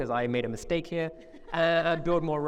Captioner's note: laughing